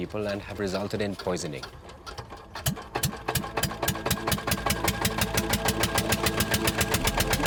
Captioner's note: engine sputtering; dreamy music